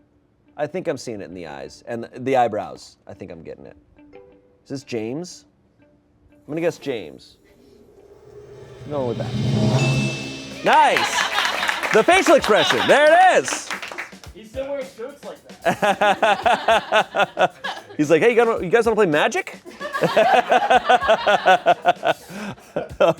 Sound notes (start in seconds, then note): 8.6 bell dings; 12.4 laughter; 19.6 laughter